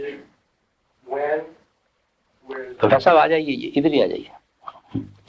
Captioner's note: In Hindi